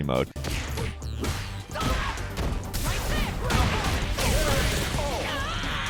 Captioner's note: upbeat techno music; punches and kicks whack